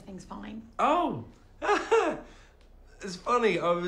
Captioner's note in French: des rires